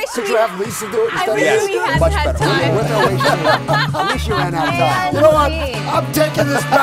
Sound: laughter

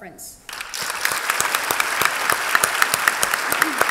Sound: applause

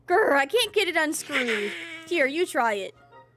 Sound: Donald Laughs

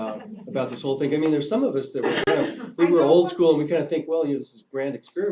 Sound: cough

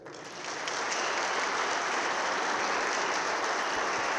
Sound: audience claps

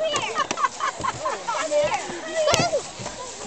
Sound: laughter

